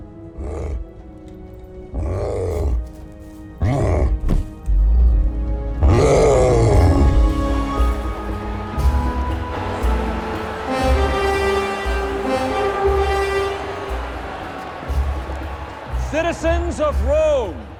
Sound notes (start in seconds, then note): 1.9 cyclops growling; 7.5 crowd cheering